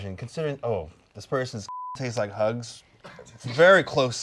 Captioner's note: beep